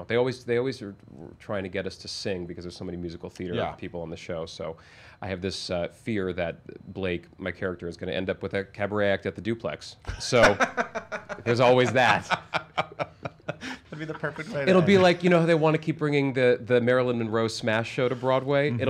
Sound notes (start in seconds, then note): 12.7 laughs